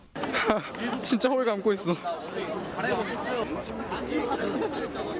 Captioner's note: 웃음